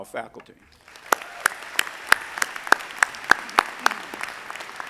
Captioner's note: audience applauding